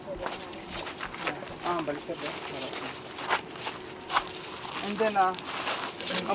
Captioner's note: speaking in foreign language